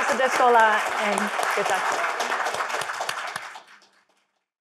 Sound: crowd clapping

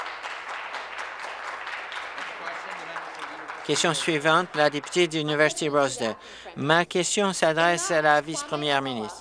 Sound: applause

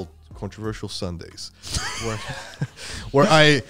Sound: laughing

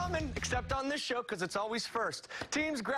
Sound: cheers and applause

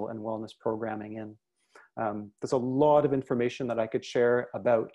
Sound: speaking in French

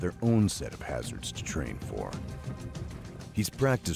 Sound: voiceover

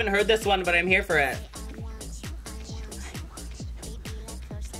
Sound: whispers

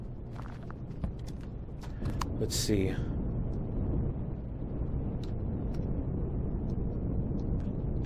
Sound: keystroke

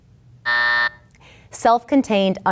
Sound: buzzer going off

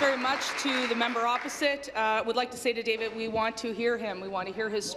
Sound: applause

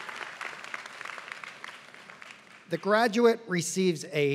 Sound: applause

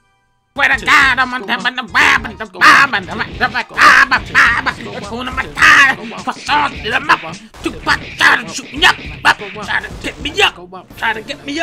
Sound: dunkey screams nonsense

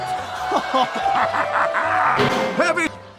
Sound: audience awwws; heavy and baby laugh

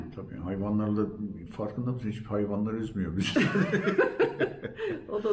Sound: laughter

